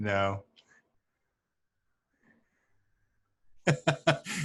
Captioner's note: laughs